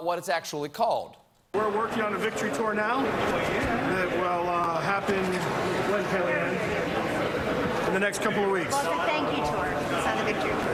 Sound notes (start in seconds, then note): none